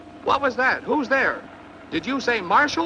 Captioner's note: man On Radio